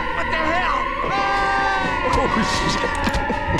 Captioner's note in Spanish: grita